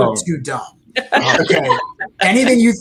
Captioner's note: all laughing